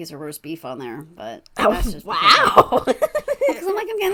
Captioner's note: laughs